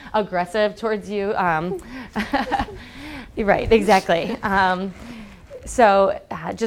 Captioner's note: laugh